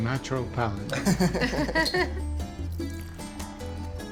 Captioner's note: chuckle